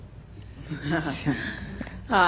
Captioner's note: laughter